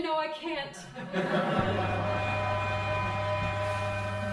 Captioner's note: crowd laughing